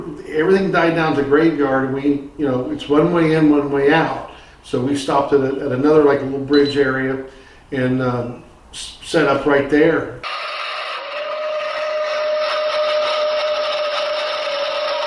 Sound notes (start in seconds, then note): 10.5 distorted recording and howls